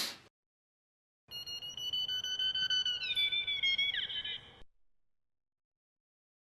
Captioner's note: metal detector screeching